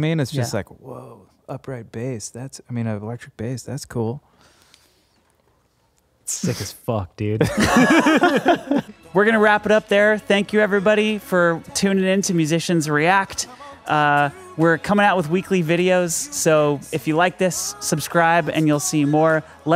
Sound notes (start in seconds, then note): 7.4 laughing